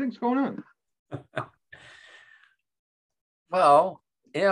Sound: chuckles

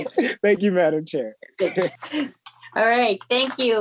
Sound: giggles

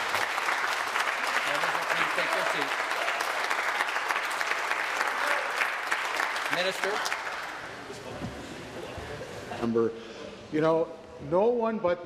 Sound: applause

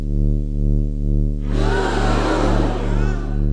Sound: gasping

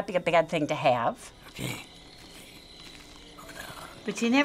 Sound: brush crunching underfood

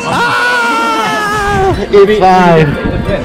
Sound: yells in frustration

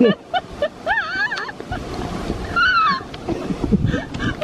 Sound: hysterical laughing

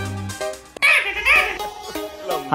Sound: phone ringing

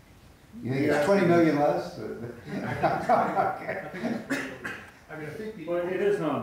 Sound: laughter

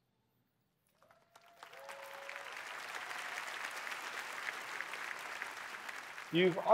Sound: applause

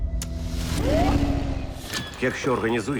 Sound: siren whoops

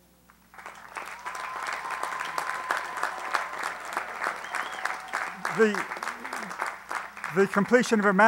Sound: applause

